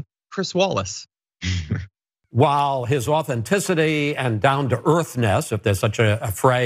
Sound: laugh

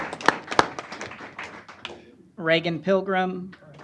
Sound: applause

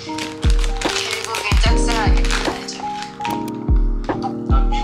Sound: laptop sound

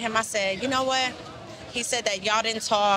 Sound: none

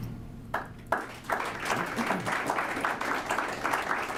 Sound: applause

